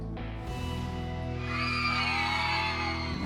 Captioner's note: cheering